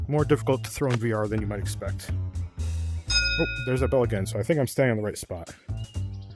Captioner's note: ding